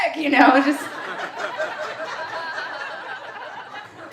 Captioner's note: audience laughing